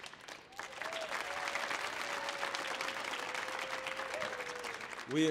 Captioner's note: audience applauding